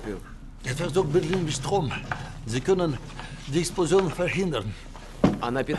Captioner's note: speaking German